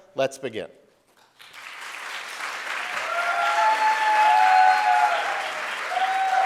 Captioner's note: audience cheering and applauding